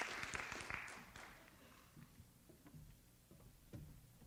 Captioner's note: applause